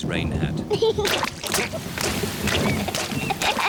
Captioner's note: thunder rumbling; giggling